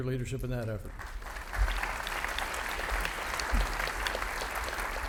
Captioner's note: audience applauding